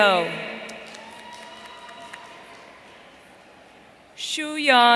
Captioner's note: audience cheering